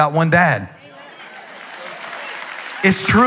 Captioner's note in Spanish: Aplausos